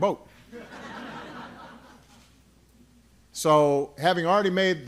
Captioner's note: laughter